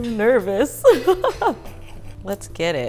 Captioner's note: laughing